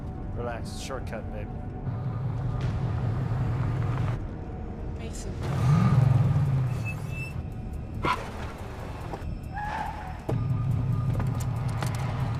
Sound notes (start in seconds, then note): 5.6 brakes squeaking; 8.0 tires squealing